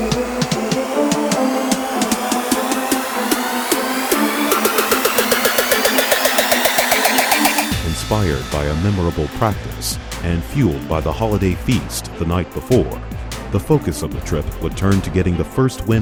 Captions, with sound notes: (music swells) - [Voiceover] Inspired by a memorable practice, and fueled by the holiday feast the night before, the focus of the trip would turn to getting the first win